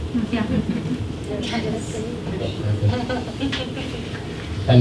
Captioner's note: scattered chuckles